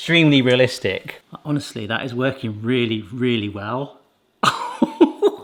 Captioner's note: laughs